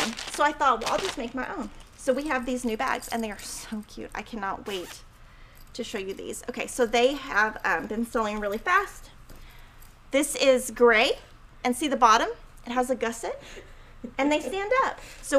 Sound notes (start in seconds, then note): 2.0 bell jingling